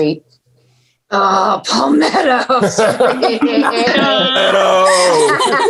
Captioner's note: everyone laughing